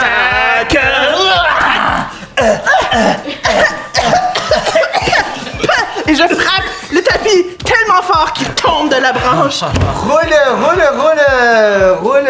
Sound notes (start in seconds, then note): 1.7 both shout; 4.4 both cough